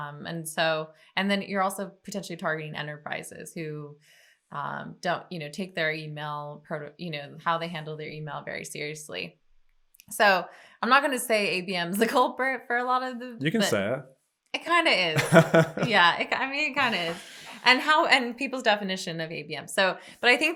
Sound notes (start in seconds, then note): 15.1 laughs